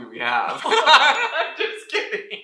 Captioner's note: laughter